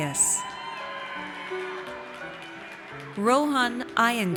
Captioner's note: audience cheers